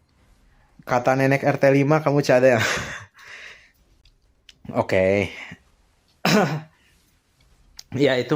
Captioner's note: gasp